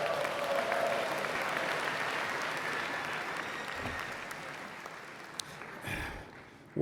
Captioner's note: cheers and Applause